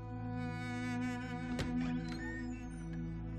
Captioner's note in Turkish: Kapı sesi